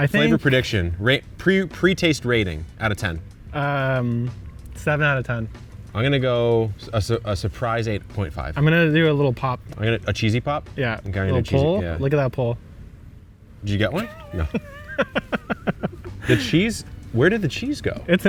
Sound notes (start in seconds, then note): 15.6 laughing